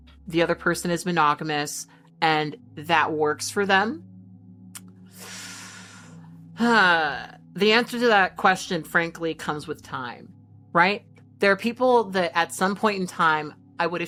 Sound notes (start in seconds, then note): 5.1 hissing; 5.1 exhaling